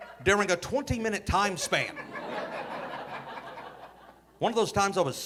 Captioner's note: audience laughing